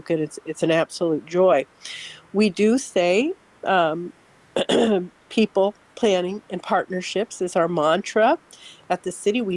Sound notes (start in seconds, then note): 4.6 clears throat